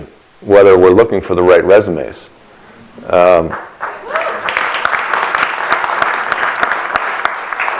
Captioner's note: applause